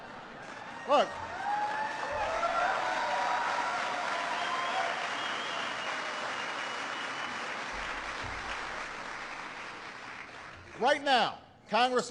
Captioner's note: laughter and applause